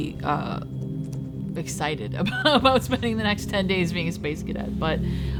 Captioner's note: laughs